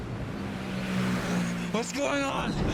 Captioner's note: tires screeching